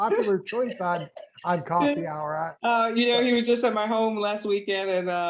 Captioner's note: laughter